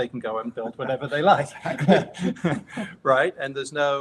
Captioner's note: laughs